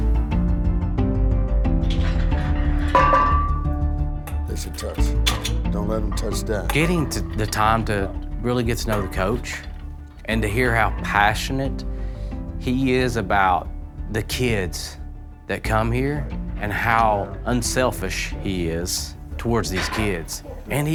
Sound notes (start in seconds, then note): 0.1 determined instrumental music; 2.9 weights clanking